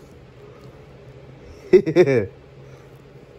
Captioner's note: Ella giggles